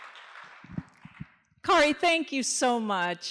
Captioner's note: applause